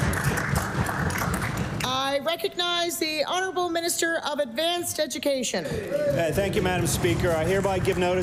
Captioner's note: applause